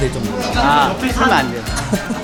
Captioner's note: haha